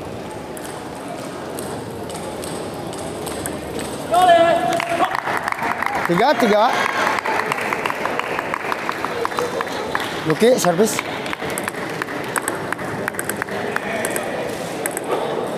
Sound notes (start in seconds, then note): 2.9 applause